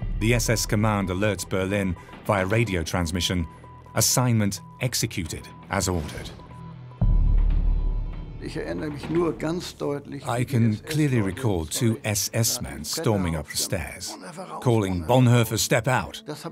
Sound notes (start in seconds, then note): 6.6 radio beeps; 7.6 speaks in foreign language